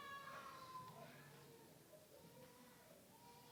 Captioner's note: baby crying